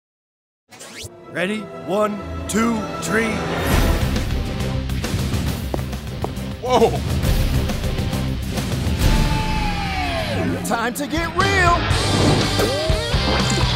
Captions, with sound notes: - Ready? One, two, three. (dramatic music) (footsteps) - Whoa! - Time to get real! (rock music)